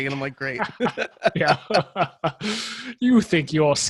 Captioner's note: laughs